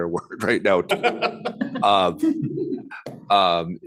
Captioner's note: laughter